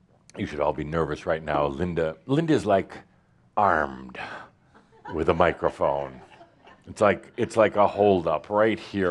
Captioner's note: a few chuckles